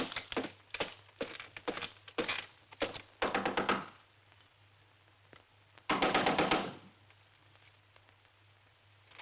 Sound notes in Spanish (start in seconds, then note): 5.9 Llaman a la puerta